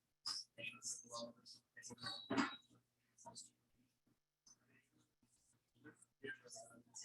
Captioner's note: people chattering indistinctly continues